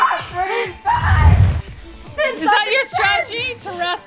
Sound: squealing

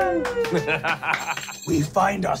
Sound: clapping and laughing

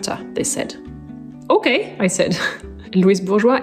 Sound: chuckles

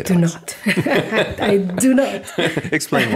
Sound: laughing

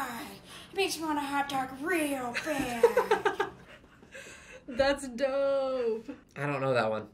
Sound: laughs

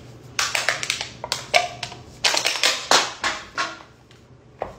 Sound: metal clanging

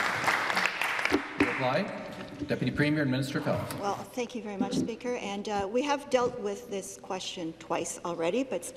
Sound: applause

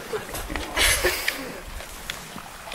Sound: laughing

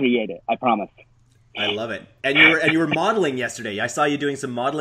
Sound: chuckles

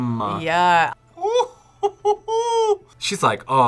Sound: laughs

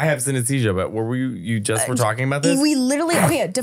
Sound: laughing

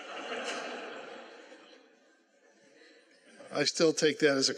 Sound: laughter

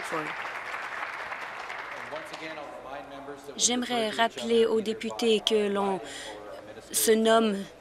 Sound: some Applause

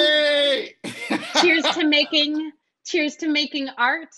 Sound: laughing

